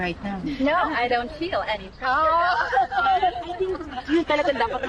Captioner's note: laughs